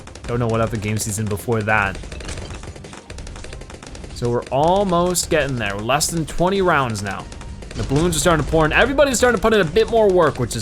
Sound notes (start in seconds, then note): 3.2 weapons firing